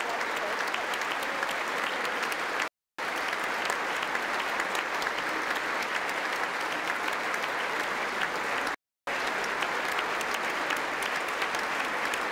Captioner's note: applause